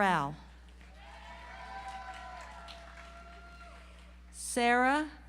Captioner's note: audience applauds